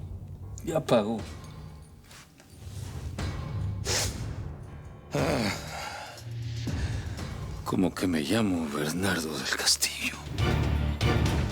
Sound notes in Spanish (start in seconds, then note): 5.1 Sollozos